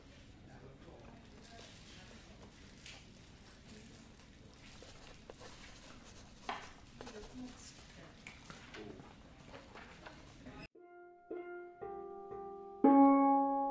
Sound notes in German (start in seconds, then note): 0.0 Bürogeräusche im Hintegrund; 4.8 Kratzen des Stiftes auf dem Papier